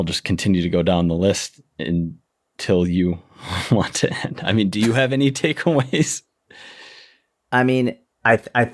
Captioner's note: chuckle